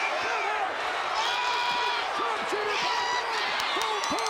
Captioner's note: Steve yelling